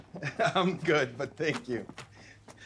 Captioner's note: Joe chuckles